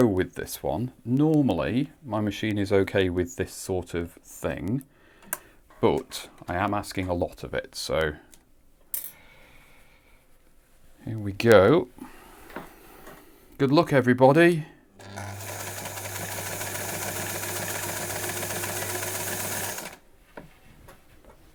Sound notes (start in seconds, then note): 15.0 sewing machine running